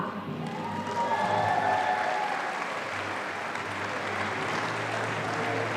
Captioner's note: audience applauding